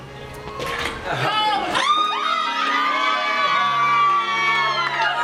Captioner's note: team cheers